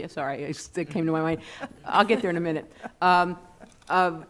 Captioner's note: laughing